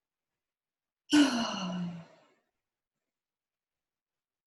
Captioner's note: sigh